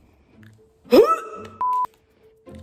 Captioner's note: exclaims in disgust; beep